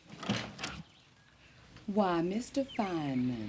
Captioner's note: door clicking